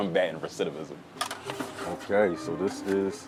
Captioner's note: pan scraping